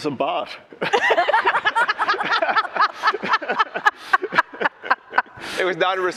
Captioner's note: laughter